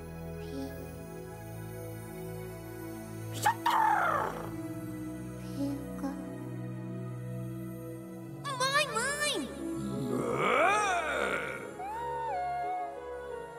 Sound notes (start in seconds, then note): 3.4 coos; 9.8 soft growl